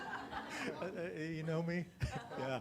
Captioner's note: audience laughing